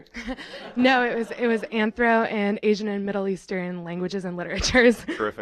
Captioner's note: laughter